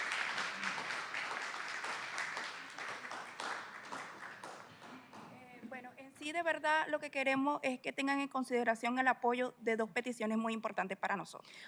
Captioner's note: applause